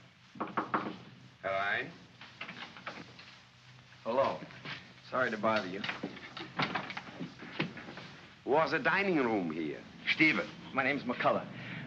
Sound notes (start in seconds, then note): 0.4 knocking on door; 1.3 man speaks in German; 2.3 door opens; 5.5 door closes